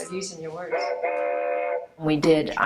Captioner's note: train horn